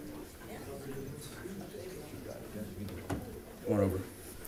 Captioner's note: crowd chatting